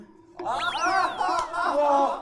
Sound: laughing

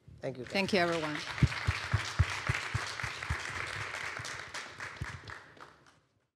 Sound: applause

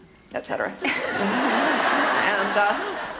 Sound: audience laughter

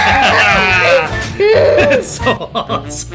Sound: both cheering

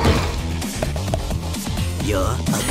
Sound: clack clack!

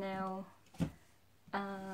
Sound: books falling

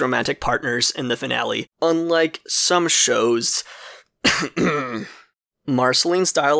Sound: coughs

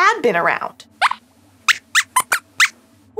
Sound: squeaks squeaks

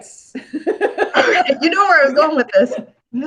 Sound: laughs

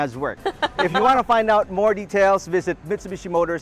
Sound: laughs

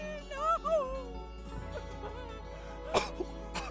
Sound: sobbing

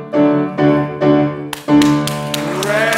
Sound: audience applauds

